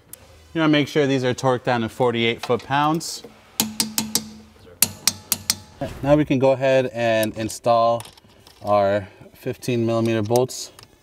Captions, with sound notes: You wanna make sure these are torque down to 48 foot pounds. (metal clanking) Now we can go ahead and install our 15 millimeter bolts